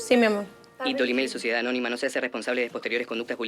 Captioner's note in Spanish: Locutor, muy rápido